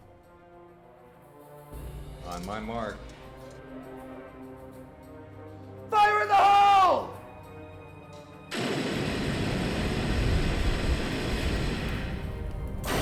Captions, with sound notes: (dramatic orchestral music) On my mark. - Fire in the hole! (flamethrowers blasting)